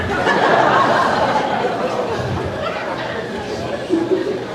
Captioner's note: crowd laughing